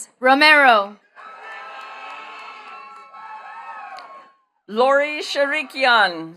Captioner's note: attendees cheering and clapping